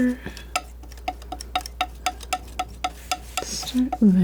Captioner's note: tapping on paper